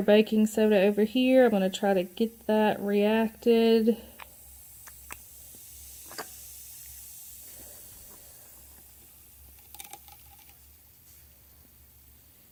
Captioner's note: fizzes